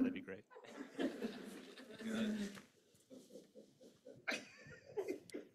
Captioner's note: laughs